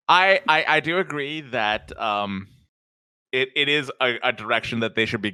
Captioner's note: chuckles; laughs